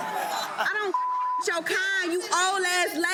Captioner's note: audience laughing; beep